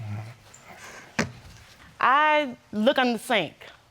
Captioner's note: murmuring